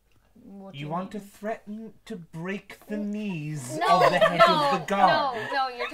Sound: laughter

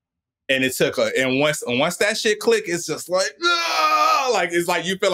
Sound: screams

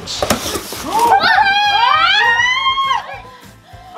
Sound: shouts

